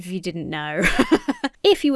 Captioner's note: laughs